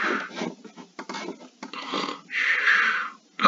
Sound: snoring; snoring

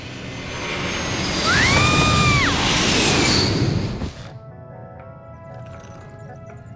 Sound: screams

